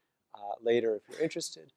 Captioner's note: cough